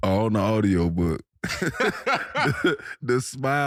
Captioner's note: all laughing